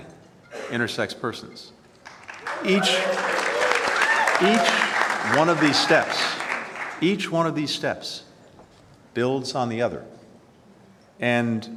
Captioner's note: applause